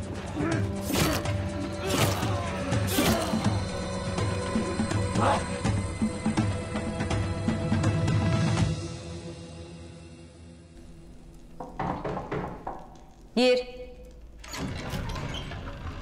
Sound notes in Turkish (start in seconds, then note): 11.4 Kapı çalınıyor